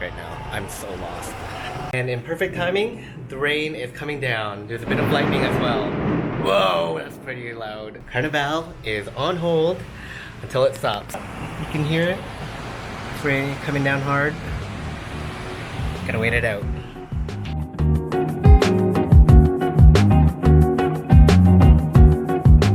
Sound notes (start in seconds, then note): 4.8 loud thunder; 12.1 sounds of rain; 15.3 soft background music